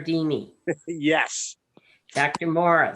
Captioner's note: laughs